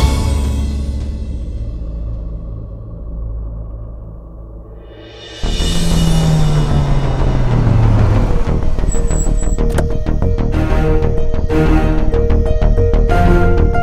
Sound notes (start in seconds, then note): 6.0 Car halting; 8.7 Car door opens